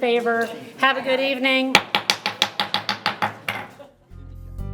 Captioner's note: gavel thuds